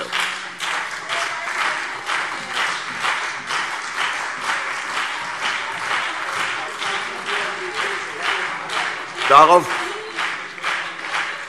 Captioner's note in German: Beifall CDU und BÜNDNIS 90/DIE GRÜNEN